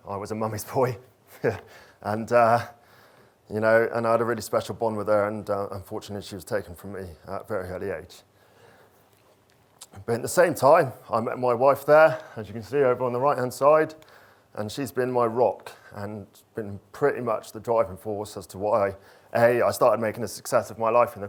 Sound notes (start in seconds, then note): 1.3 chuckles